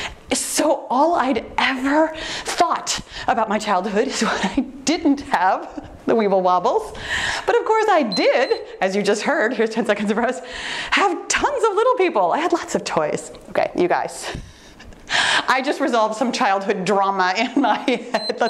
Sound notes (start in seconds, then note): 8.1 timer beeps; 18.2 timer beeps